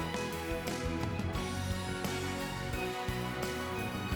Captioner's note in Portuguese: none